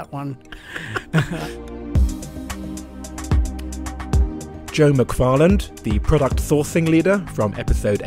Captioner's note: voiceover